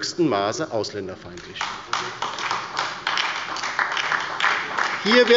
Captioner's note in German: Beifall bei der LINKEN und der SPD